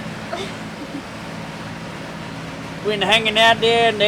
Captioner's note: laughs